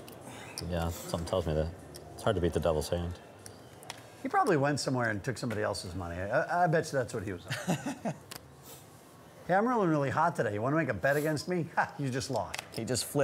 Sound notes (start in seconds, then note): 7.4 laughs